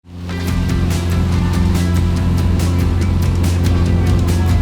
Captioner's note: boat engine revving